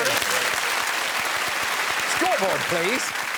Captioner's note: applause